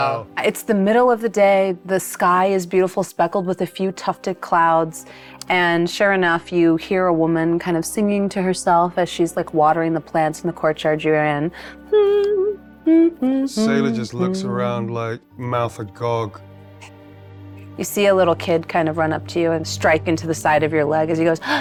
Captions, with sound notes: - It's the middle of the day. The sky is beautiful, speckled with a few tufted clouds. And sure enough, you hear a woman kind of singing to herself as she's like watering the plants in the courtyard you're in. (hums) - Sailor just looks around like mouth agog. - You see a little kid kind of run up to you and strike into the side of your leg as he goes,